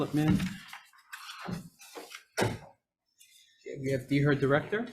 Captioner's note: paper rustling